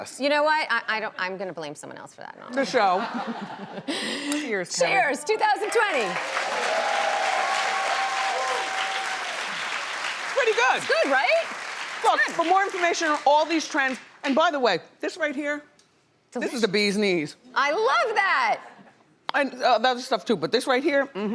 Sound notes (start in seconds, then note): 3.4 laughing; 5.5 crowd cheering